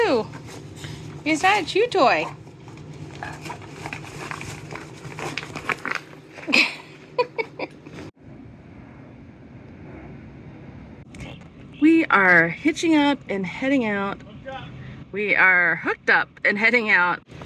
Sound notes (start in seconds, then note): 5.0 ripping sounds; 6.4 laughs